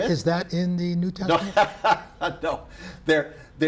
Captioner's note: laughs